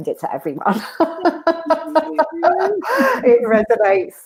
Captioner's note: laughing